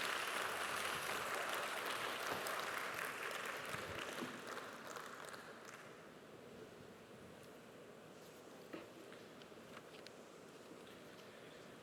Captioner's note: applause